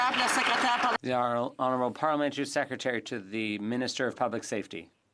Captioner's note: some Applause